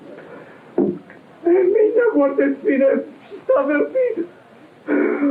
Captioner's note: speaking portuguese